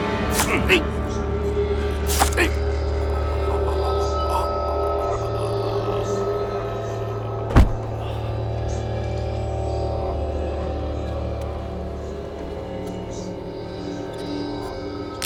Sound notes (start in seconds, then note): 1.9 grunting; 7.5 thuds